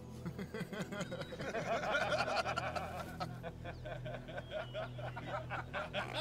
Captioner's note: all laughing; laughing